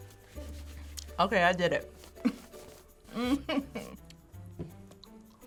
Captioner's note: groans